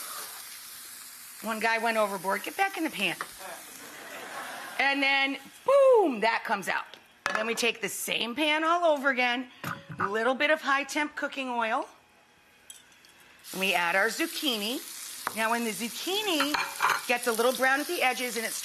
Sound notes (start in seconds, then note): 3.4 crowd laughing